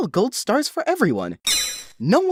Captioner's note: electronic plink